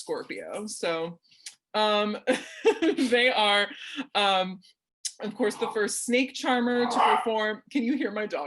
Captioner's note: dog barks